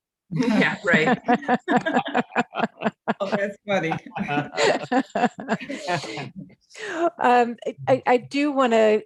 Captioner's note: all laughing